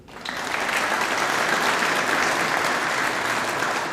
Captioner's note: audience applauding